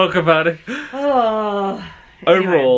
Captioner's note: sighs